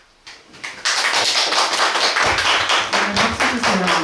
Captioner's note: applause